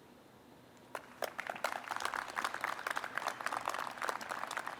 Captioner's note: audience applauds